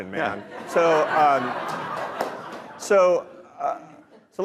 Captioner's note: audience laughing